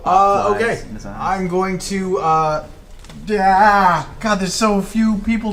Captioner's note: groans